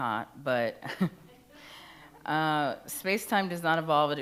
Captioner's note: chuckles; attendees laugh faintly